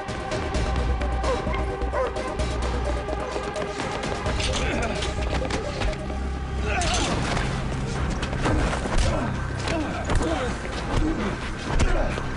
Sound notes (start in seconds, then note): 5.8 groans; 9.3 scuffling